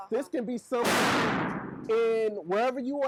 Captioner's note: gunshot booms drowns out